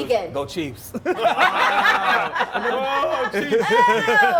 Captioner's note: laughter